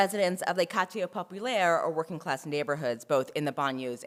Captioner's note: french